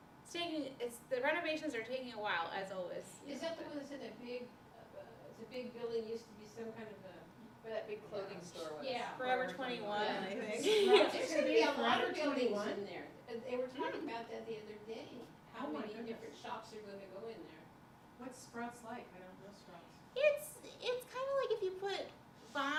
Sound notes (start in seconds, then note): 10.6 laughter